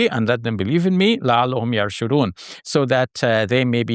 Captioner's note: foreign language; foreign language